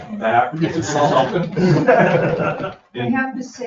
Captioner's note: all laughing